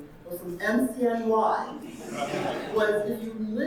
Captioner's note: audience laughing